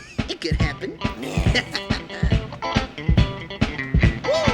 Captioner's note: raccoon laughs